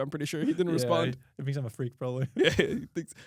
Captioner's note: laughs